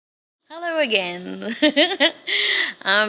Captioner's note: giggles